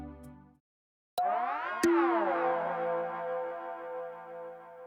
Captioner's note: chiming tones